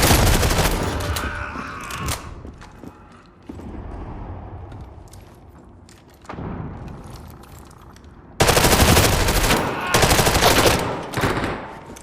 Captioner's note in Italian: urlo